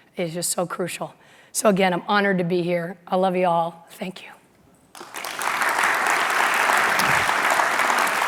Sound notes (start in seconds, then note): 4.9 applause